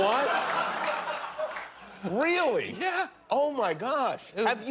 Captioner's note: laughter